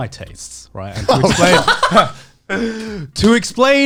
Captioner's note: laughs